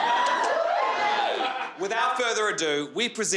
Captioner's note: crowd cheering